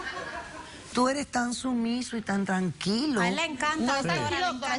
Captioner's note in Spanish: Risas